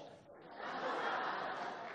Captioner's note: laughter